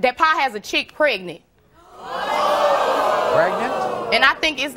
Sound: audience gasping

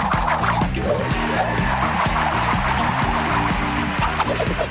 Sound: cheering

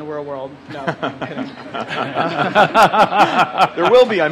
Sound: laughter

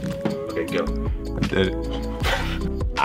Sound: laughs

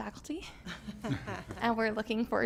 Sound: laughter

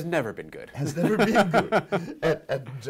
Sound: laughing

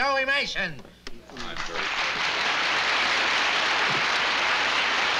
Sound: applause

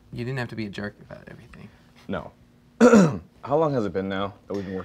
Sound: clearing throat

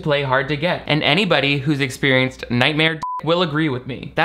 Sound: beep

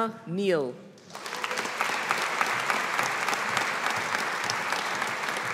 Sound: audience applauding

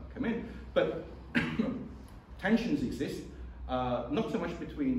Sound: coughs

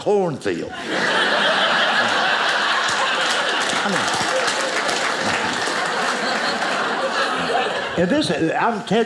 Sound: audience laughing

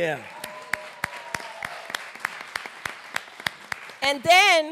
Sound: applause

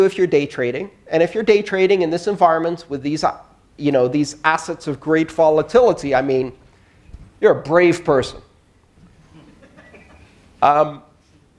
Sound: laughter

